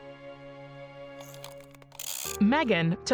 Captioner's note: shutter clicks